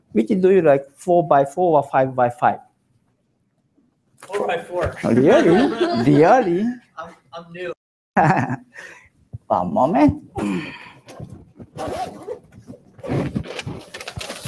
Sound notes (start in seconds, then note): 9.0 laughs